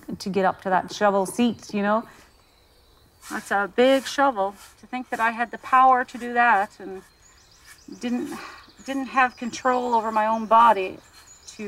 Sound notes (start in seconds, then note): none